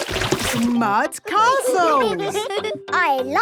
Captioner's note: all giggling